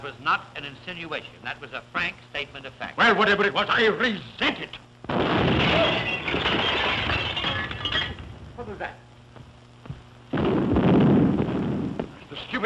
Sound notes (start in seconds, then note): 5.1 boom; 5.1 glass breaking; 10.2 booming